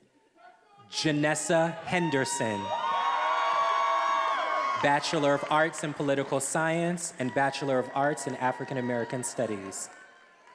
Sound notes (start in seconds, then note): 2.6 attendees applauding and cheering